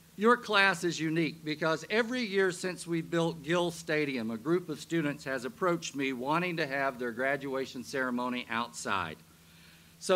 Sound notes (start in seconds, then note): none